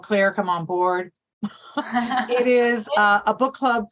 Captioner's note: laughs